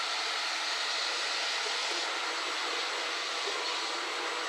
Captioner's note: machine noise